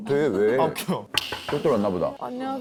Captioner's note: A knock on the door